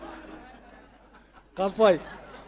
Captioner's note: audience laughing; speaking Maori